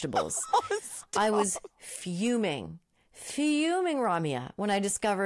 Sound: laughing

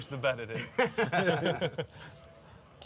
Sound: laughing

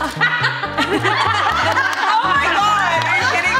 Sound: all laughing; laughs

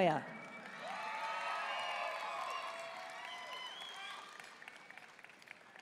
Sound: audience cheering and applauding

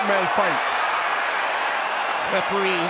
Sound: cheers and applause

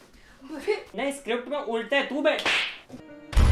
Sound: smack

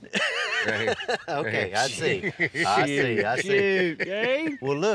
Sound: chuckles

